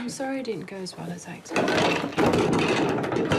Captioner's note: clattering